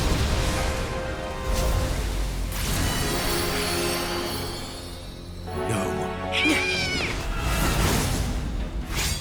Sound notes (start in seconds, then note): 6.5 battle grunts